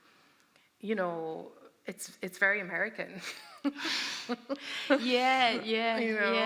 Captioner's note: laughter